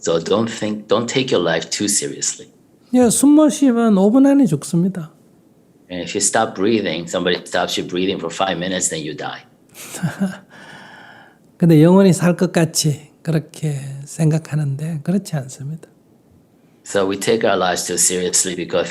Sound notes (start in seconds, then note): 9.7 Sunim laughter